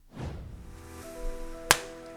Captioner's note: air whooshing